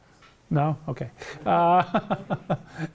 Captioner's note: laughs